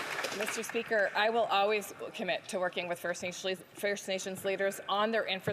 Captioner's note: some Applause